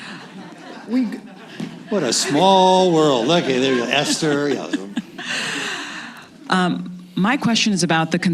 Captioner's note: laughter